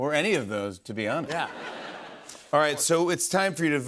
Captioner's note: laughter